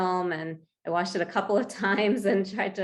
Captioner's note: chuckles